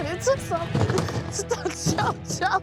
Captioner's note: laughter